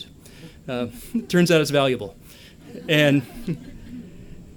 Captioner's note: laughter